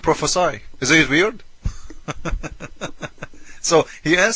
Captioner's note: laughs